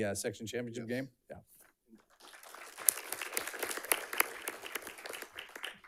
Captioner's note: audience clapping